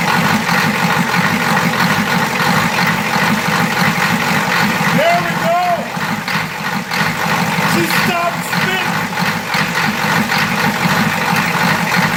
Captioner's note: engine cranks & starts; engine idling